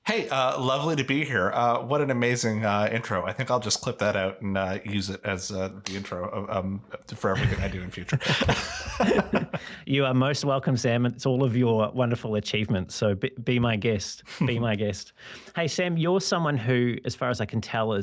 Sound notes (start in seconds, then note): 7.2 laugh